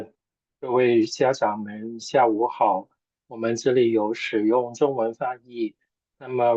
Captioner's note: chinese interpreter speaking Chinese